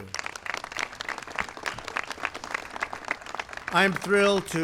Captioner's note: applause